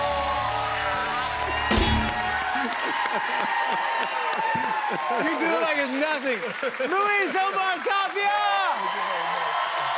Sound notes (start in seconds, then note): 0.8 laughter; 2.8 cheers and applause